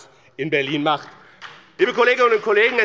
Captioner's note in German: Beifall bei dem BÜNDNIS 90/DIE GRÜNEN und der SPD